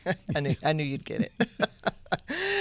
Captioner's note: chuckling